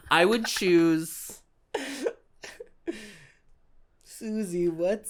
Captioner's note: trailing laughter